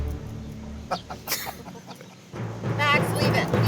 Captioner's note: laughing